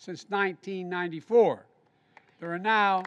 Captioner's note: applause